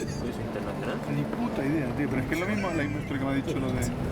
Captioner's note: speaking Spanish